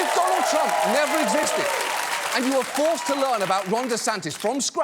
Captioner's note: applause